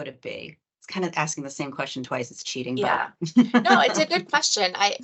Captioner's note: laughter